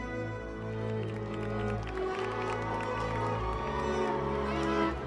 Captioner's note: crowd cheers